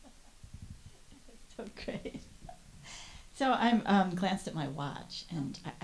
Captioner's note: chuckles